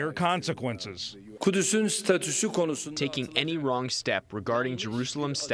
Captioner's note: through translator